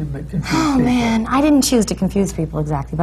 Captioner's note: sighs